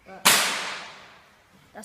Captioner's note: bang